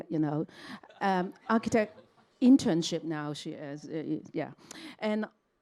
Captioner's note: all laugh